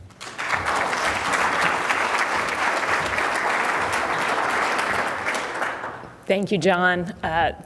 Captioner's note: applause